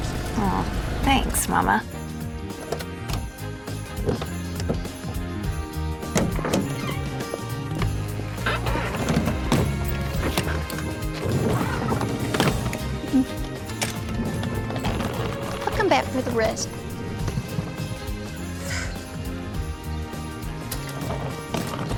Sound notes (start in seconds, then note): 9.6 suitcases thudding; 18.5 sighs